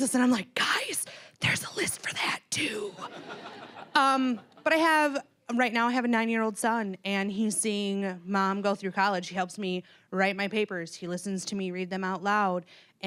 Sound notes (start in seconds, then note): 3.0 audience laughing